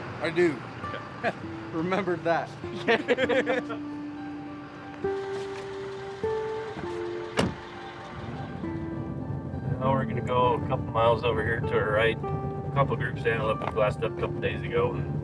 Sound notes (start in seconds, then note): 2.7 both laughing; 2.7 chuckling; 6.3 car door thudding